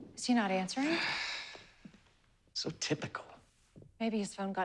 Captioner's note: sighs